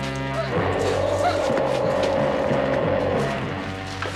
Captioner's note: Cha-Ka panicking